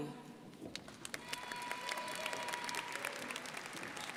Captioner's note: crowd applauding